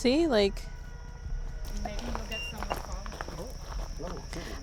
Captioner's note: EMF beeps